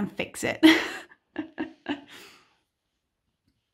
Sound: laughs

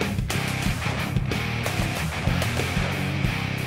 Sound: fires rifle; firing gun

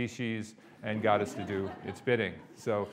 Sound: audience laughing

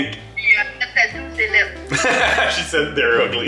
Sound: speaking in French

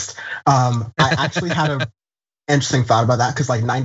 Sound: laugh

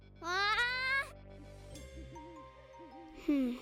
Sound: owl hooting

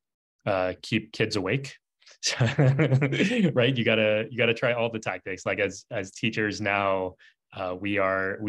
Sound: laughs

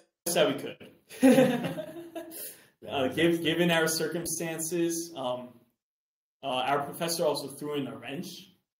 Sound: laughs

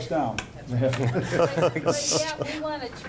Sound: laughing

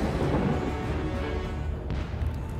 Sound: explosion

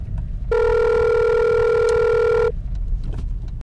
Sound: phone rings

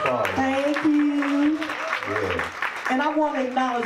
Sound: audience cheers

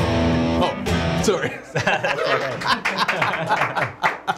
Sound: loud laughing; studio claps

